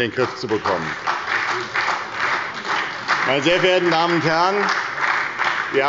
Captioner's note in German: Beifall bei der SDP